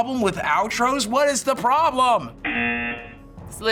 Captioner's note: buzzer